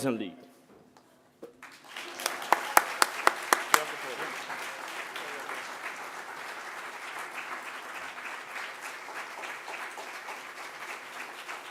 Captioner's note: applause